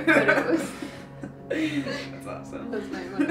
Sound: laughing

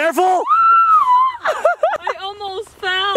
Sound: screaming

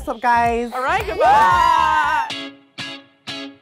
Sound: all cheering; upbeat music

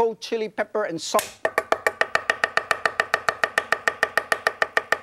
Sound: knife chops

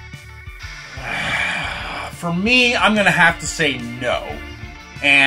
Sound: groan

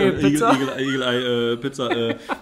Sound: laughs

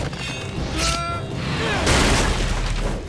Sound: grunting

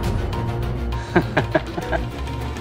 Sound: laughs

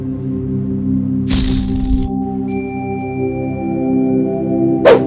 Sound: queef noise

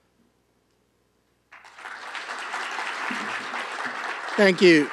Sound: applause

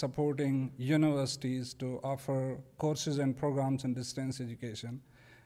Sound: none

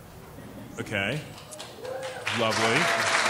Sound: applauding

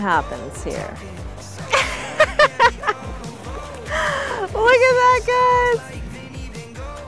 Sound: laughs

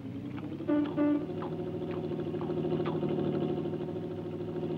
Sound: horn honks

